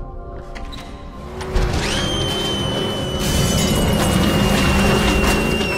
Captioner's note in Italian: rumore di motore